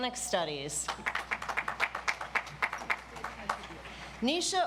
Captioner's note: audience applauds